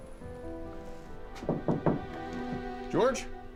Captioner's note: knocking on door